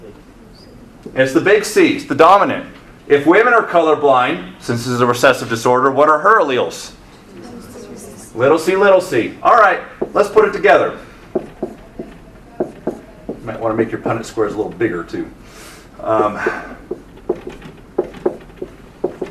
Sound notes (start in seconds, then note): 7.2 students murmur answer; 11.3 marker thudding; 16.8 marker thudding